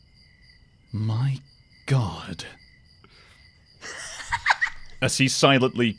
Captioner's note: laughs